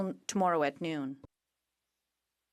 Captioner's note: speaking in French